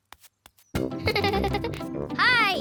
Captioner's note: giggles